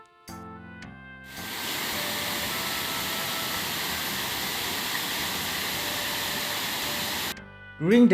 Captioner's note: waterfall